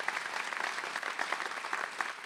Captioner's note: applause